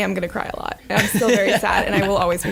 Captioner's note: laughing